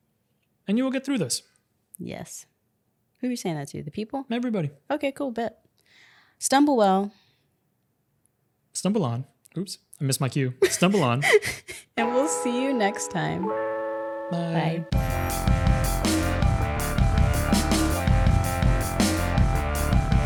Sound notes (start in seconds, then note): 10.6 laughing; 15.2 upbeat music